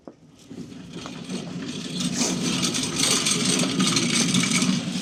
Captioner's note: machine rattling